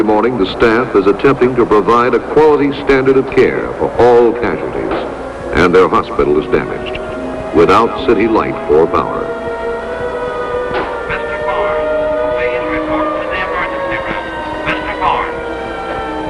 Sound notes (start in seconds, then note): 9.6 sirens; 10.9 voice on public address system; 15.7 sirens, shouting, more words from public address system